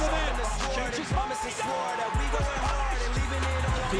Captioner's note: hip hop music; crowd cheers and applauds